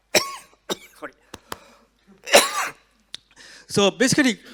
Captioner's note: coughs; coughs